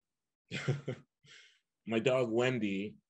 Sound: chuckles

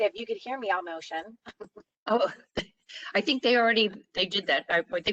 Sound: laughter

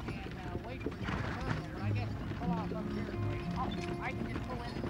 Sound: horse snorts

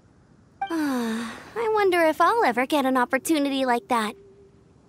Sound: s'igh

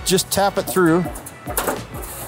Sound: machine clicks

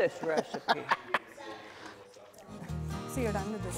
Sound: laughs

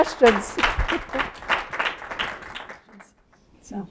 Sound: applause

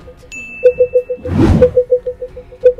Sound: bell dings; air whooshing; beeping grows faster and louder

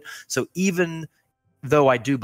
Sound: none

